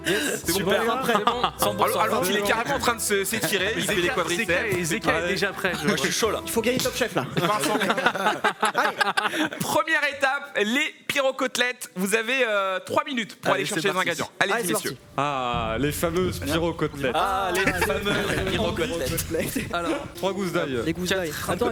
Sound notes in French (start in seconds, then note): 7.1 rires; 17.5 rires